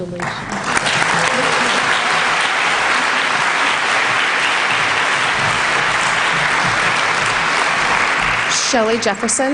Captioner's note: applause